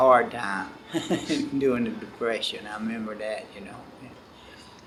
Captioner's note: laughs